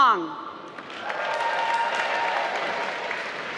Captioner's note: applause